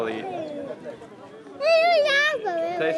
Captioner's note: speaking in foreign language